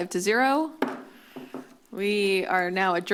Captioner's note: bangs gavel